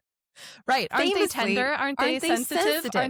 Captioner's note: laughs